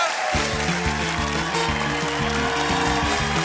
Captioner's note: cheering and applause